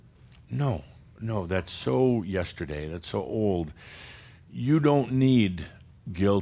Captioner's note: none